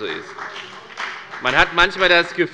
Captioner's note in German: Beifall bei der FDP